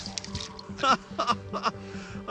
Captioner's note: laughing